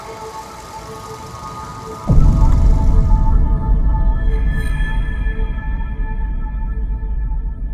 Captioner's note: high pitched frequency; projector rattling